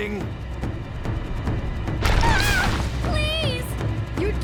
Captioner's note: screaming